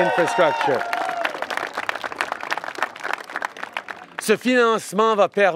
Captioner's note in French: Applaudissements et acclamations